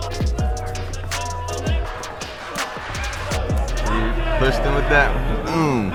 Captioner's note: coaches screaming in the background